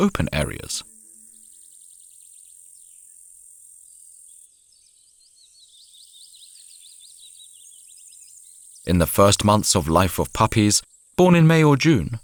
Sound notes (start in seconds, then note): 2.3 odgłosy świerszczy, śpiew ptaków